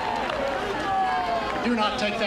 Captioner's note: applause